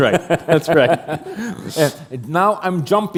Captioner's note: chuckle